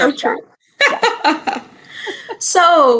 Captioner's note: laughter